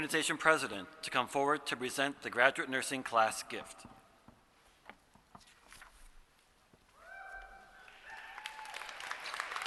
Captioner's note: applause